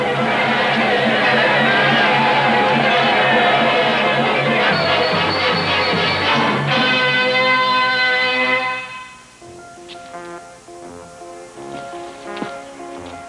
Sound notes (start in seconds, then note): 0.1 shouting; 4.6 train bell clinking; 9.4 sober music